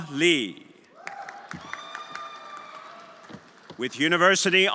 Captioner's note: everyone applauding and cheering